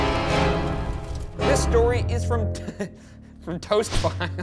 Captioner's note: dramatic music; laughs